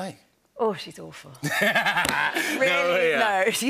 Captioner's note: laughter